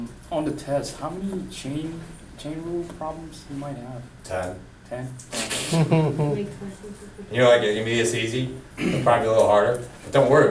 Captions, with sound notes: - [Voiceover] On the test, how many chain rule problems you might have? - [Voiceover] 10. - [Voiceover] 10? All right. (chuckling) - [Voiceover] You like it. You mean it's easy. Find it a little harder.